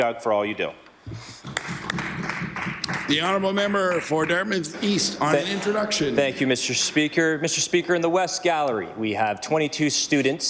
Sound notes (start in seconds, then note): 4.5 applause